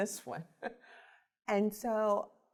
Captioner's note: laughs